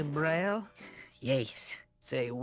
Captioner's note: with French accent